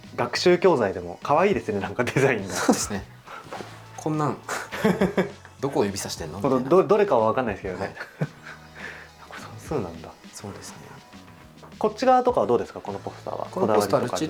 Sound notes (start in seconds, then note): 7.7 laughs